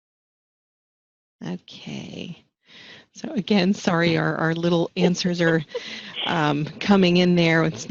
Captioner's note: laughter